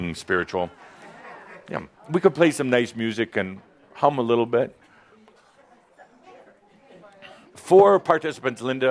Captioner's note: audience agrees